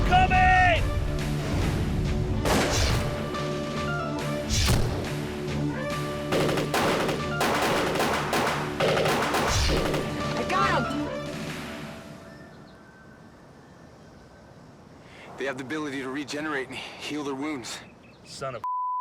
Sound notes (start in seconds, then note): 2.4 gun fires; 4.6 solid thud; 6.2 rapid gun fire; 8.6 whooshing of air